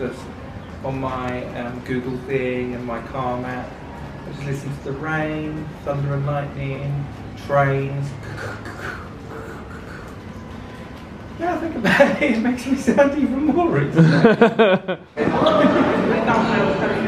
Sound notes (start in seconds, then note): 8.3 imitates train on tracks; 13.8 chuckling